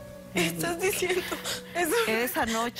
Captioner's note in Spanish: Sollozos